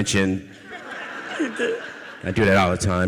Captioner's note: audience laughs